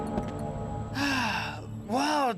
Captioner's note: sighs